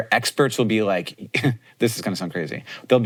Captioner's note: chuckles